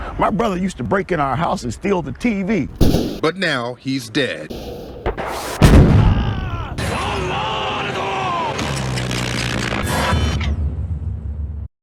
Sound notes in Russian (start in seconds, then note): 4.5 Взрыв